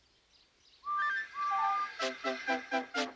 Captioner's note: tooting